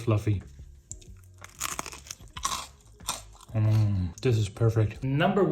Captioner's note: bread crunching